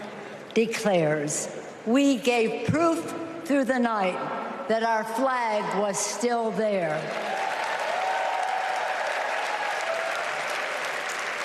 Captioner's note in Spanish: Aplausos